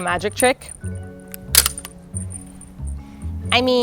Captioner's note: cane clicks open